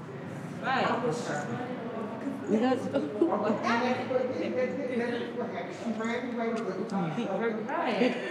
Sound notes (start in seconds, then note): 2.0 women talking simultaneously